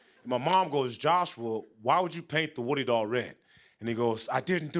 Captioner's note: none